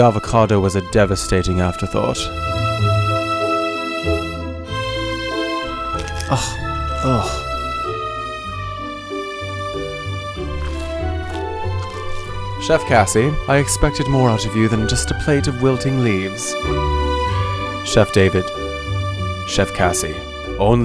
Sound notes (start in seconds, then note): 6.2 grunts; 6.5 salad crunches